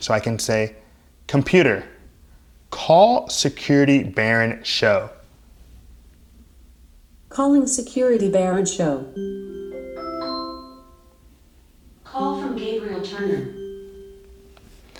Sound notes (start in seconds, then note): 9.1 chime